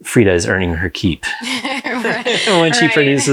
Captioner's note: both laugh